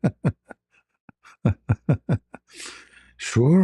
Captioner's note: ketawa